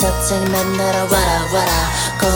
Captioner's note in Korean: ㅋㅋ